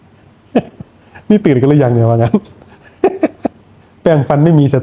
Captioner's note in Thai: เสียงหัวเราะ